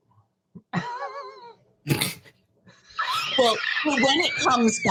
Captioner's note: both laughing